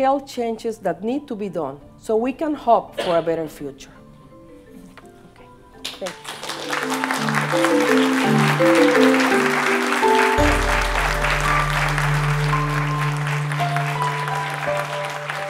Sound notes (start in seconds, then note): 6.5 applause